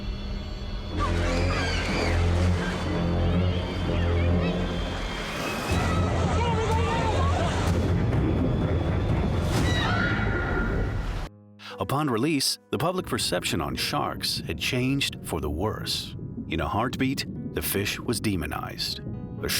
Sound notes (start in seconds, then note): 0.9 people screaming; 9.7 lady screams